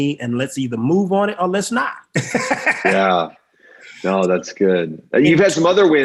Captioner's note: laughing